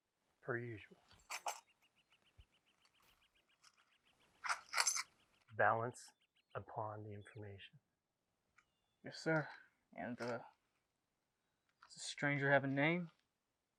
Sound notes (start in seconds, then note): 1.2 coins jangle